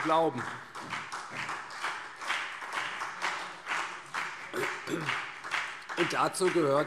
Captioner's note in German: Beifall CDU und BÜNDNIS 90/DIE GRÜNEN